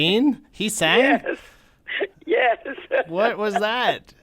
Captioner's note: laughter